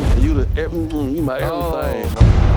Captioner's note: exclaims